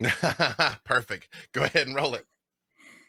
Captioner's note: laughing